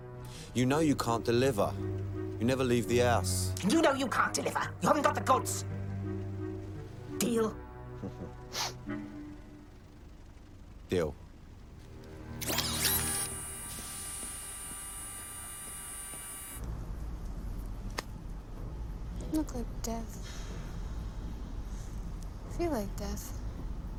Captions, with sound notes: YOU KNOW YOU CAN'T DELIVER. YOU NEVER LEAVE THE HOUSE. YOU KNOW YOU CAN'T DELIVER. YOU HAVEN'T GOT THE GOODS! - DEAL? - ( chuckles ) DEAL. LOOK LIKE DEATH. FEEL LIKE DEATH.